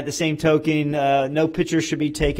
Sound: none

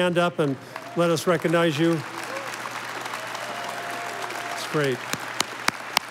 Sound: audience applauding

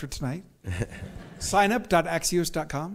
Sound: chuckles; audience laughs

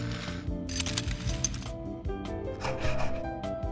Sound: metal rattle sounds

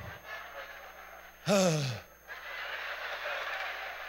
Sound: sighs

